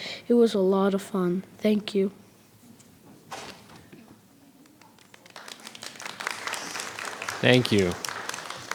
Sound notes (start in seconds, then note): 4.6 clapping